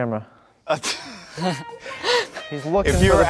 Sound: laughs; sexy music

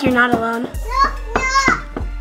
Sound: knocking

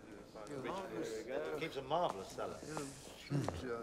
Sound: chattering

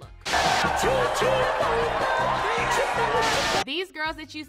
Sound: lively party music; crowd cheering

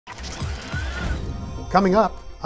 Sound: machine startup

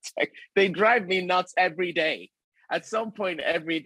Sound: all giggling

